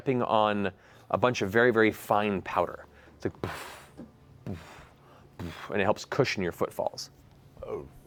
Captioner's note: heavy footsteps